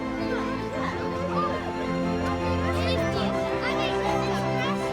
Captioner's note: children chattering